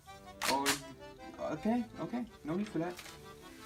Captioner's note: gun clicks